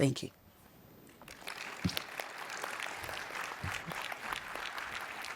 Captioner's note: participants clap